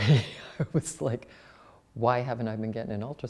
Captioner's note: laughs